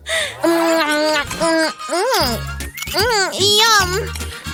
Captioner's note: deep sigh of relief; laugh; chews noisily; sounds of eating, ill-mannered